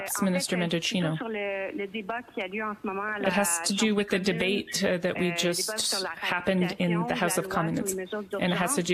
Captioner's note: speaking French